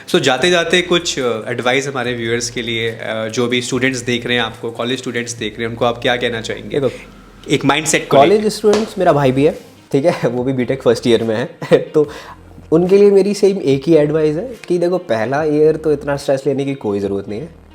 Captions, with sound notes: So before going can you please give some advice for your viewers Like the students which are watching you College students are seeing you So what you want to say Like in terms of mindset As a student my brother is also there. He is also in Btech first year [laughs] So for them my one advice will be that don't take too much stress in first year